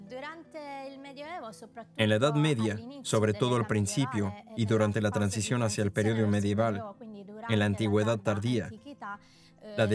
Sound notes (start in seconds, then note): 2.9 speaking in a foreign language